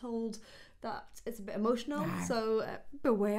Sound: monster growls

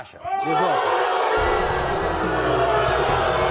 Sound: audience boos

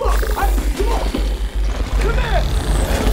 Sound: creature growling

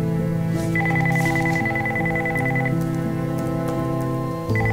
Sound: telephone ringing

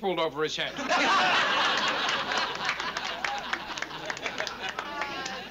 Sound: laughter

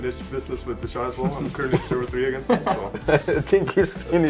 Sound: giggling; laughing

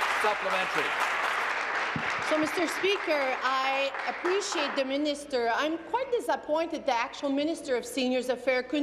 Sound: applause

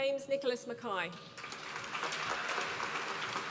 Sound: applause

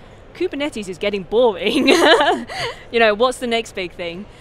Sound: laughing

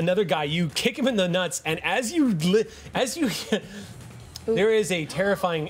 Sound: laughs

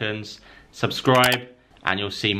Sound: computer mouse clicking

